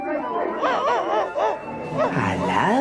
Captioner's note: dog barking